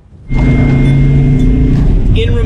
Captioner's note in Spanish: motor zumbando